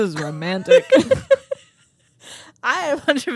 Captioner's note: both laughing